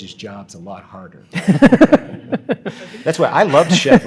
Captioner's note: audience laughs